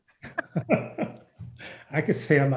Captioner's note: laughing